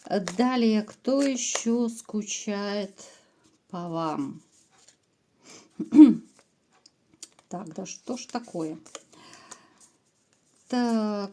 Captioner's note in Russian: откашливается